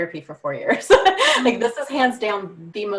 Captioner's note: laughing